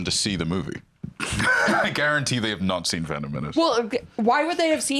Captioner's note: laughs